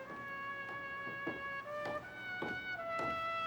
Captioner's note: footsteps